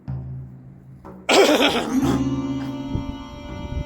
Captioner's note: cough